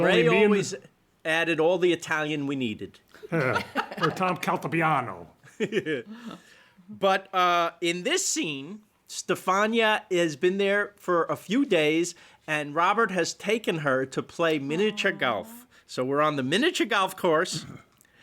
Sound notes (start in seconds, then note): 3.2 laughter; 4.8 speaks italian